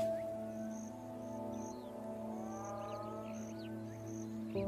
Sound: hyenas whine

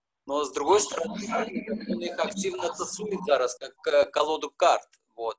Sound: speaking foreign language

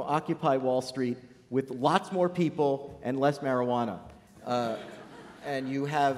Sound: laughter

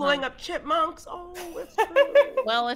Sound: players laughing

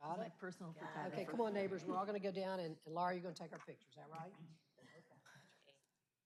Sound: laughter

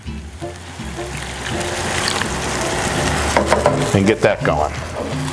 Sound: water pouring; spoon banging

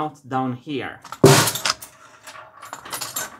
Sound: clack; snare drum

